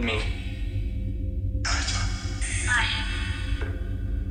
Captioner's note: chanting